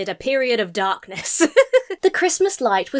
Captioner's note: laughs